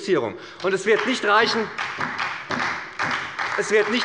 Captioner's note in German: Beifall bei der SPD